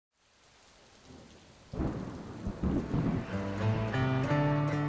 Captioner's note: rain and thunder; gentle guitar music